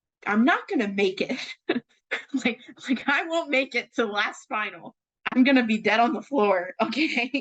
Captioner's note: laughs